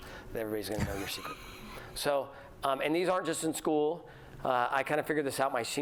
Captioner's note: laughter